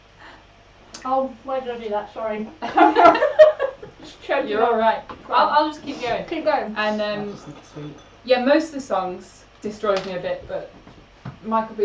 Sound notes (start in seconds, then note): 2.2 laughs